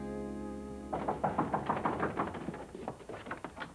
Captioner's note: knock on door